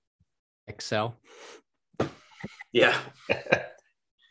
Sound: laughs

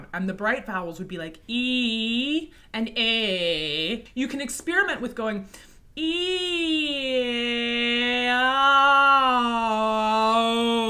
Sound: sounds of shifting between vowels

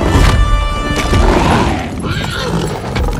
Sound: roaring

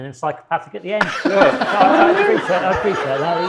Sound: audience laughing

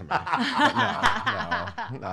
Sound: laughter

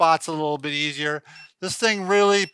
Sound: massager beeping

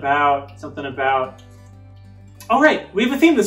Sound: fingers snapping

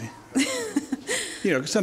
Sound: laughs

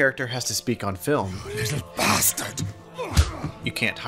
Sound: German accent

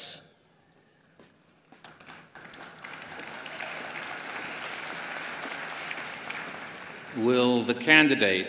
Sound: applause

